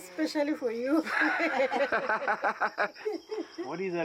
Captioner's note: laughs